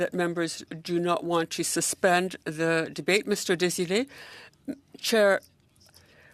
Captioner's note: speaking French